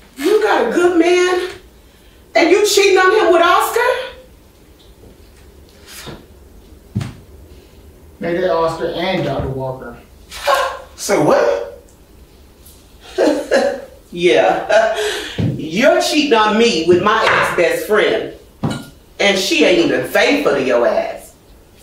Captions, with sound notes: - You got a good man and you cheating on him with Oscar, - Make that Oscar and Dr. Walker. (Cat chuckles) - Say what? - (laughs) Yeah, you're cheating on me with my ex-best friend and she ain't even faithful to your ass.